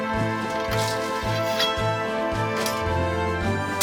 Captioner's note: sword swishes